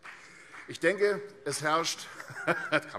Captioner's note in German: Vereinzelter Beifall